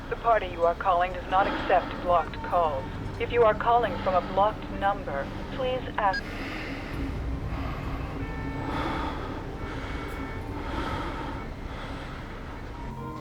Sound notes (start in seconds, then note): 6.0 line disconnects; 8.8 man breathing